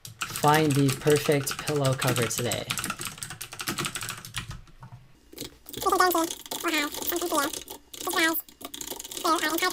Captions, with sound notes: "Find the perfect pillow cover today." (typing) (sped up speech and typing)